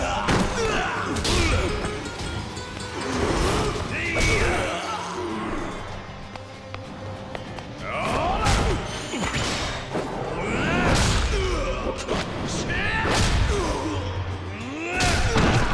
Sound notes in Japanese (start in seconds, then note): 0.0 叫び声; 0.0 うめき声; 10.4 うめき声